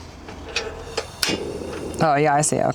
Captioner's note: clicking